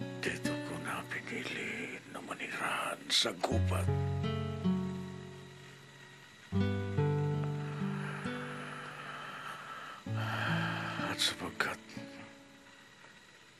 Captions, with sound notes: I chose to live in this forest. [exhales] Besides...